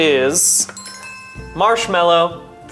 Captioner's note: bells chime